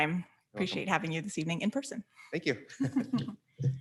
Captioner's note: chuckles